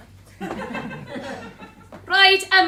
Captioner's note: laughter